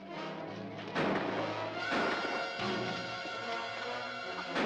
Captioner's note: gun firing